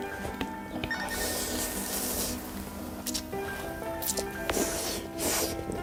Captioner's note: slurping without hesitation